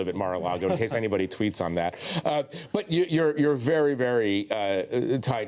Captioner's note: laughter